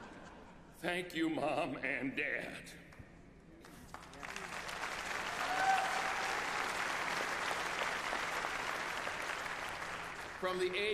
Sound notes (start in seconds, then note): 7.4 applause